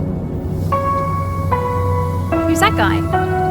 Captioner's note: reflective music; insects hissing